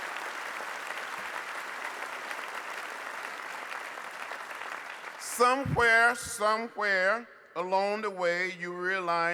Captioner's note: applause